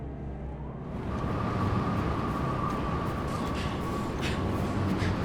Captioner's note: wind howling